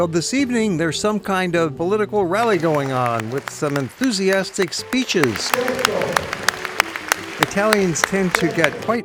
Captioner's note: applause